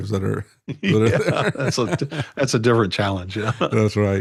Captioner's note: laughing